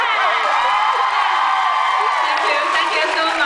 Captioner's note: laughs; cheers